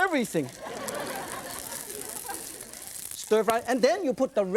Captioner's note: audience laughs